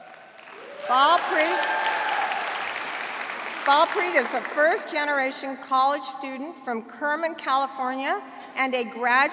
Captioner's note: applause